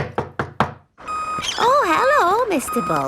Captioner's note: knocking at door